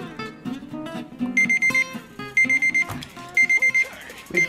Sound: timer beeping

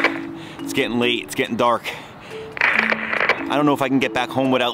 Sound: video crackles

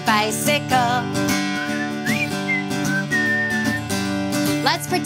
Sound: whistling

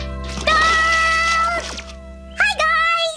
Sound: scream

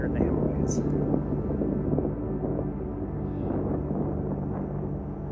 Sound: wind rustling

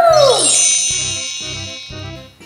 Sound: magic wand; upbeat music

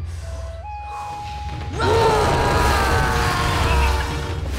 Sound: screaming

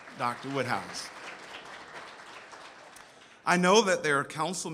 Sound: audience applauds

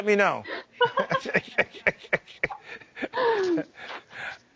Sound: laughs

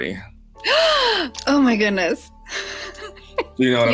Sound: gasps

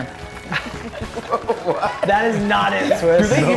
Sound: laugh

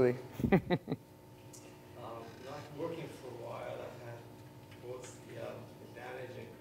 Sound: laugh

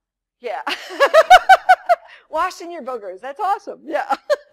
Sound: laughs

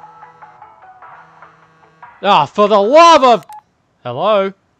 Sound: phone rings

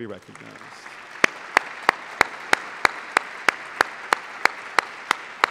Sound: applause

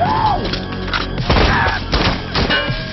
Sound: scream

